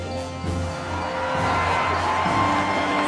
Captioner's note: juichend